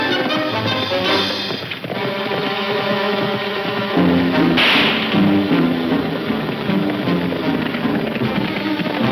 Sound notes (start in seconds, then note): 2.3 gunshot